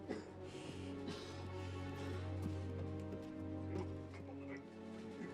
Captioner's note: coughing; dramatic music